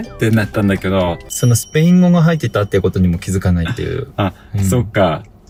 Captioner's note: laughs